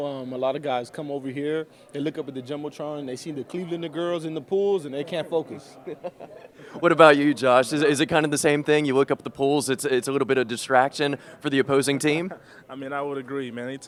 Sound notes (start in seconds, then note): 5.7 laughing